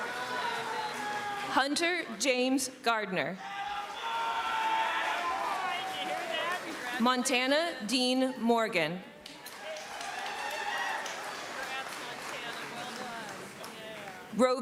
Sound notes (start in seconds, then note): 0.0 cheering; 3.4 screaming